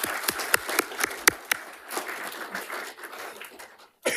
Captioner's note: attendees clapping